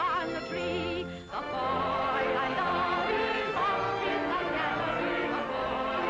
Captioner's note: audience joins in